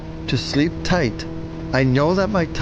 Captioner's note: motor revving